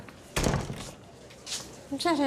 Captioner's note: door clicks shut